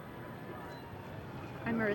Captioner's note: police sirens